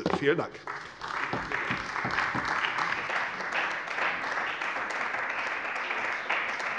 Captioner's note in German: Beifall bei der CDU und dem BÜNDNIS 90/DIE GRÜNEN